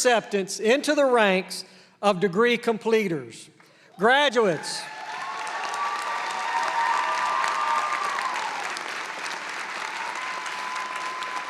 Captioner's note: applause; cheering